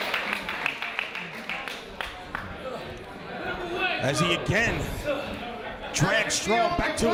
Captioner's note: applause